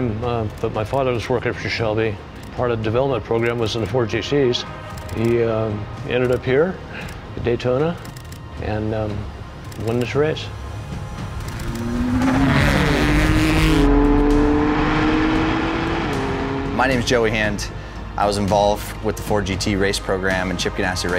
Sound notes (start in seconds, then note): 12.3 car engine roars